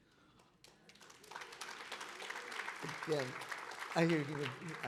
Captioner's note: audience clapping